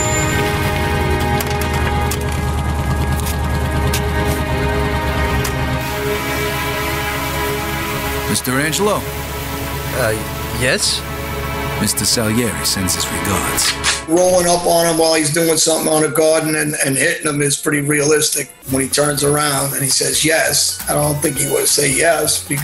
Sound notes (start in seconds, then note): 0.2 brakes squealing; 13.8 gun cocks